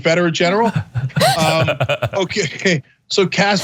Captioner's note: laugh